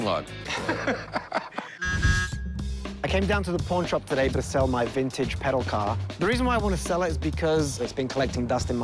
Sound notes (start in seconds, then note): 0.4 laughter; 1.8 car horn honks